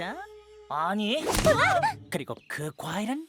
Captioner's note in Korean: 모두 비명